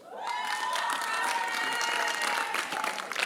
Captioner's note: applause